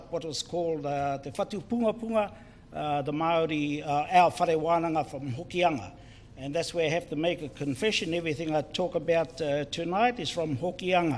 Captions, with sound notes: what is called [Foreign Language], the Maori [Foreign Language] from Hokianga and that's where I have to make a confession. Everything I talk about tonight is from Hokianga